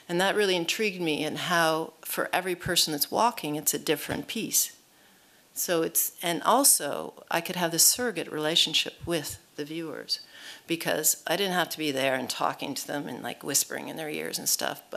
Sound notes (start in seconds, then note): none